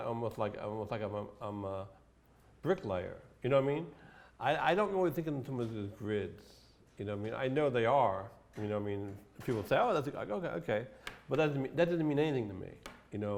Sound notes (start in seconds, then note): none